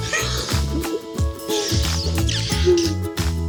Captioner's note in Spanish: Exclamaciones